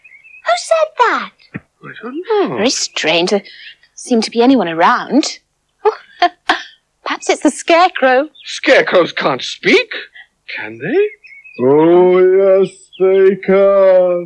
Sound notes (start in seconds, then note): 5.8 giggling